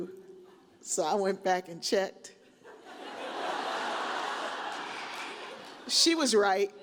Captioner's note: audience laughed